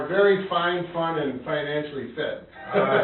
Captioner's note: laughs